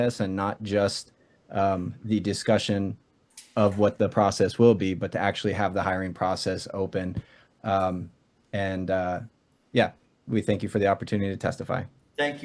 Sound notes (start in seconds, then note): none